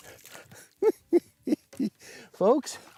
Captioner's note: laughs